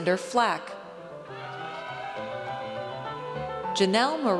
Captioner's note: audience cheers